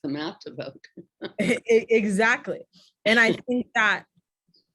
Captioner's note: laughs